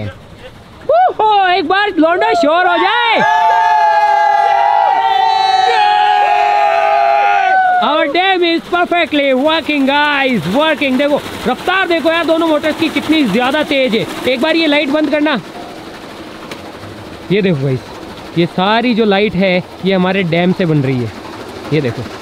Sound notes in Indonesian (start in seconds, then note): 2.2 Teriakan; 15.5 Suara turbin